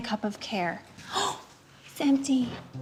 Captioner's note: gasps